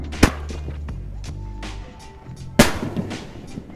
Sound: fireworks crackling; fireworks popping

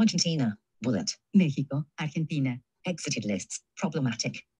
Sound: speaking in foreign language

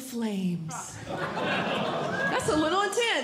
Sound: audience Laughing

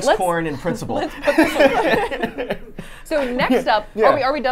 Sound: laughs

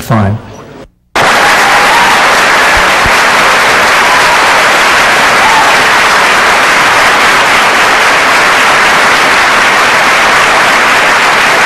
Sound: applause and cheering

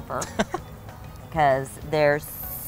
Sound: laughs

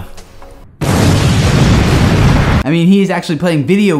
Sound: booming explosion

